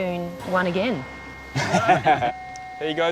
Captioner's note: laughs